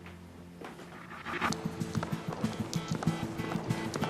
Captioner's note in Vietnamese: tiếng bước chân